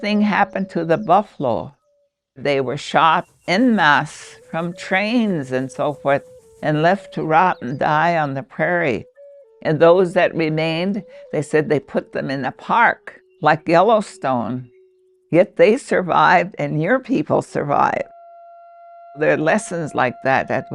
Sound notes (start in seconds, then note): 3.5 atmosphere swishing; 7.0 birds twittering distantly